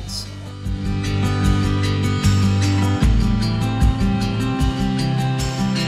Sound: in Finnish

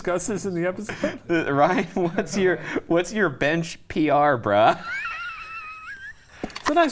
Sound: laughing

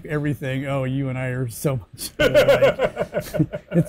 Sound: laughing

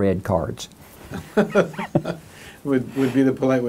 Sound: laughs

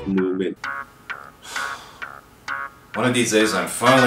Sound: cell phone rings, sighs

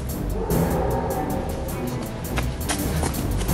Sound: howl

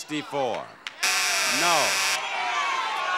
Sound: buzzer blares

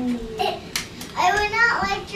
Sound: laughs

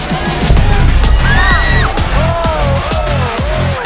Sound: dubstep music; screams

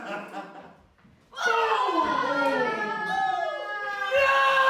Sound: Gwen screams

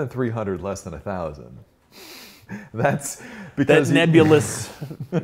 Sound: laughs

